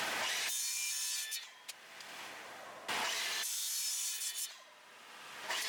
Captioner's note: sound of a running chop saw